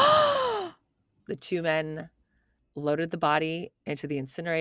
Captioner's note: gasping